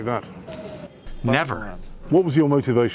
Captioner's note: through translator